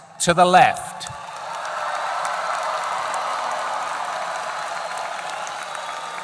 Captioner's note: applause